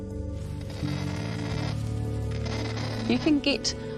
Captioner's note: kakapo cawing